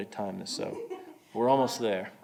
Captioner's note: laughing